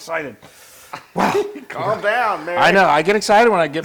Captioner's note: laugh